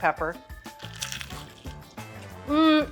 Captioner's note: chicken crunching